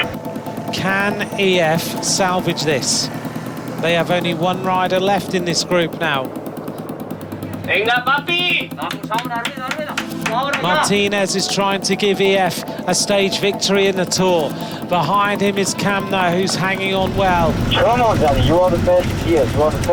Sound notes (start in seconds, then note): 7.7 speaking Spanish; 8.8 claps